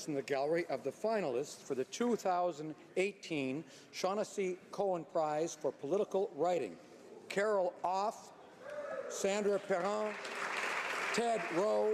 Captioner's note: applause